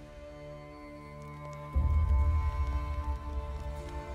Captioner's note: horse hooves